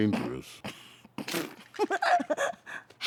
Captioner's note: laughs